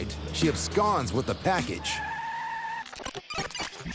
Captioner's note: tires screeching; tape whirring